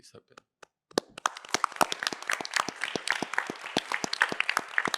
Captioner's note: applause